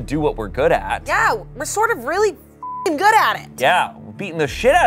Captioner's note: beep